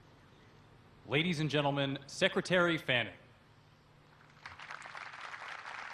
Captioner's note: voiceover; applause